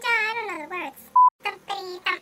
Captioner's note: beep